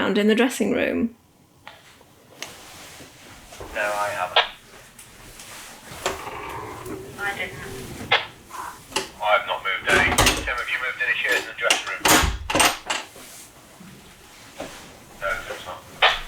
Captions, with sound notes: the dressing room? [Walkie talkie: all respond no]